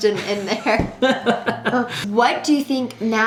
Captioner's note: laughing